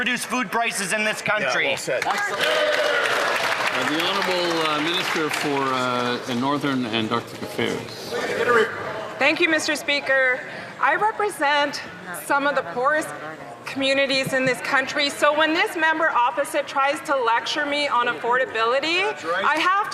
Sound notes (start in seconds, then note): 7.8 some Applause